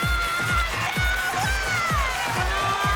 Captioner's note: cheering, whooping